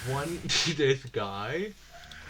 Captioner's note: scoffs